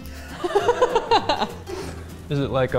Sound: they laugh

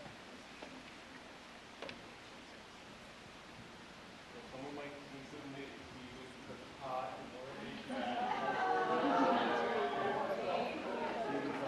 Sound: applause

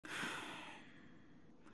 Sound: exhales

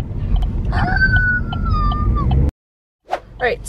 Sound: imitates tire screeching sound

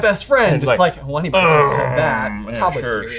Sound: groans

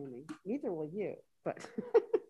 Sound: laughs

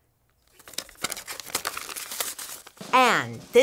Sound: paper rustles

